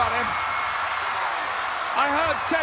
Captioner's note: crowd cheering